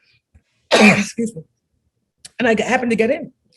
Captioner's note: coughs